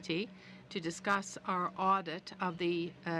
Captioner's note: speaking french